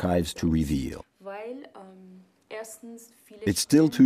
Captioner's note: speaking in a foreign language